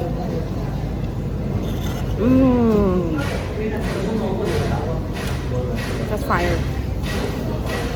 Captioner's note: street sounds